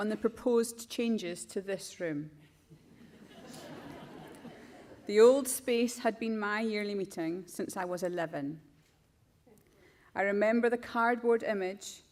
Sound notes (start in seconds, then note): 2.8 crowd laughs